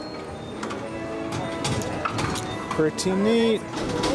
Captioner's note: chair clanking